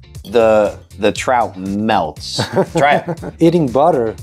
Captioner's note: laughs